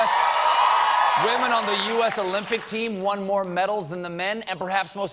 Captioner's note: cheers and applause